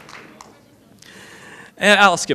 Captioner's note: applause